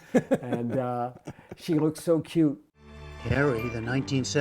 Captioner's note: laughter